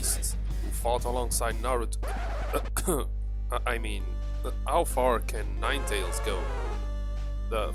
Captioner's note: cough